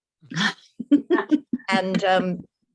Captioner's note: laughing